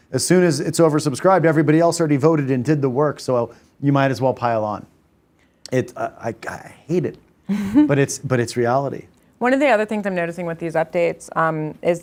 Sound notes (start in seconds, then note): 7.4 laughs